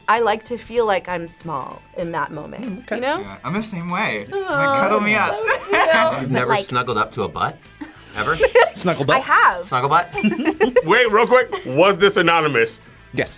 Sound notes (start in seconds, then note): 10.1 laughs; 10.1 both laugh